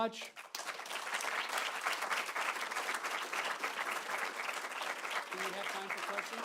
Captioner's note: applause